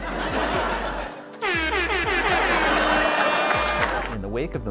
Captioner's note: air horns